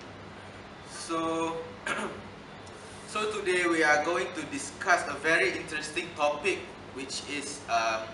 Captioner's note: clear throat